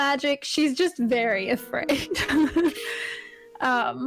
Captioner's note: laughs